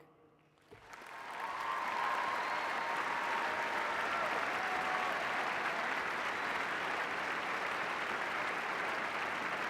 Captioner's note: applause